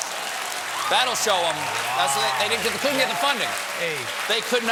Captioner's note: cheers and applause